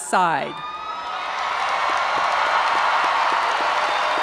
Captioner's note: audience cheering